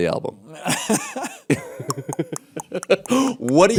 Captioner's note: laughter; Bill clicks tongue